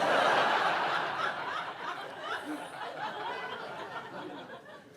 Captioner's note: audience laughs